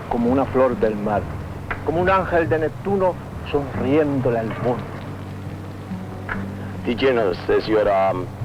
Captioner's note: speaking spanish